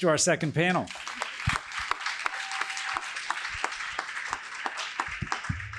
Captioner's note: applause